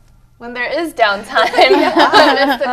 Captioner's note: laughter